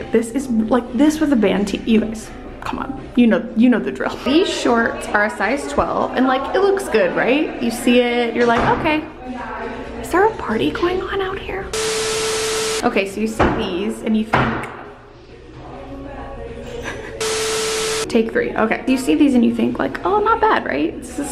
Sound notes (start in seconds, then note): 11.7 static; 14.4 loud bang; 16.7 laughs; 17.2 static